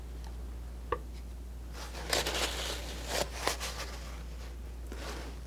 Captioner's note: scratching